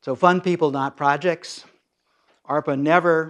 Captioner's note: none